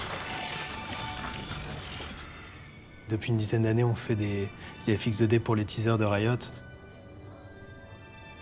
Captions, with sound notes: [IN FRENCH] For ten years, we've made the 2D effects for Riot's teasers.